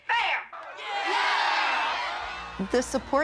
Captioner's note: crowd